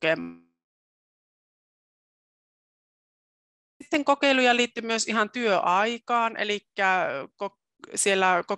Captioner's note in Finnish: ääni katkeaa